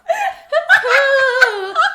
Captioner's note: laughs